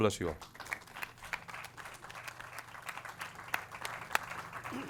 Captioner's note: audience claps